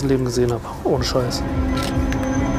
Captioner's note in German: Fotoklicken